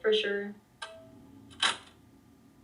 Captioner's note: sound of tape ending